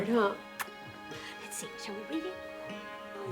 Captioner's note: smooches